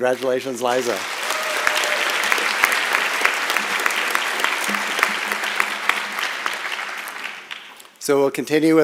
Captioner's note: applause and Cheering